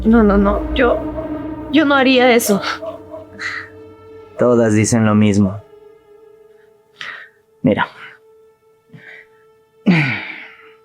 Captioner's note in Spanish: carraspeo